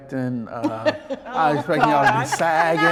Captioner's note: laughs